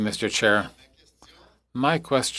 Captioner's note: speaking French